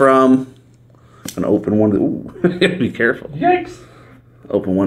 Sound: laughs

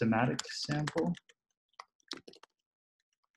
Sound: typing

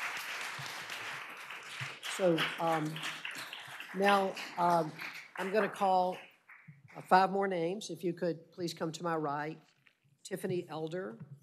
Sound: applause

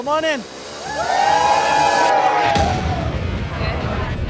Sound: patrons cheering; upbeat music

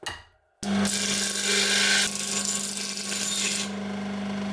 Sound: grinding

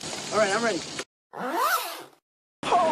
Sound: pants being unzipped

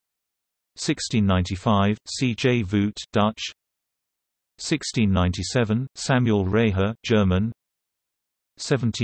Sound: German

